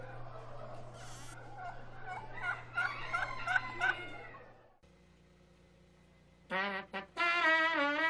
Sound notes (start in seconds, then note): 0.5 rechinido de puerta; 3.1 gallo cantando; 6.4 imita trompeta